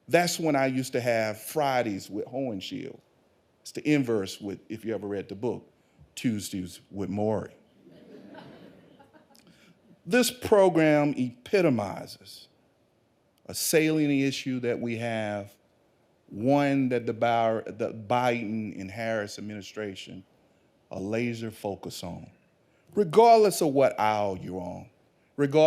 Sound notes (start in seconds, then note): 7.8 audience laughing